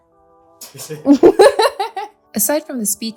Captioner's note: laughs